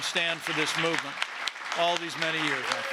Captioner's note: applause